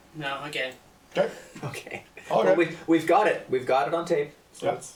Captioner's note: laughs